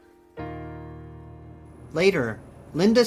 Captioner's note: car engine revs